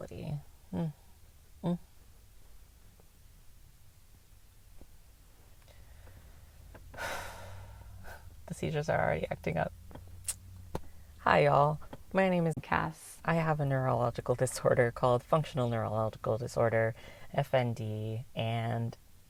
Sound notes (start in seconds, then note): 6.9 sigh